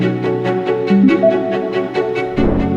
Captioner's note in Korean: 웅장한 음악; 물방울 효과음